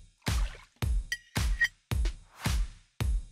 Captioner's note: water sloshing; knife screeching; light music continues